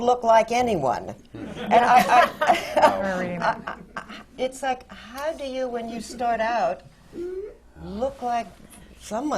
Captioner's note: laughter and agreement from panel